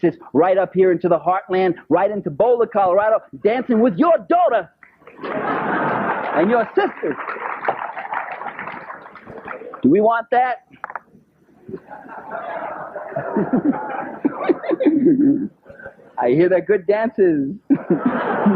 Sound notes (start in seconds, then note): 8.2 applause; 11.7 laughter